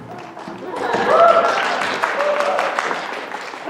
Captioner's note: applause